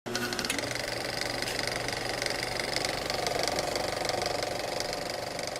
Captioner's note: sound of a film projector starting up